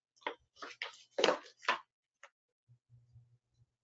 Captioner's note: pages rustling